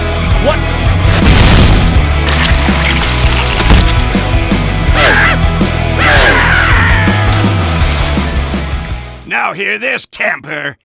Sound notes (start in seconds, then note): 1.2 boom; 6.0 scream; 6.0 screaming; 7.2 splash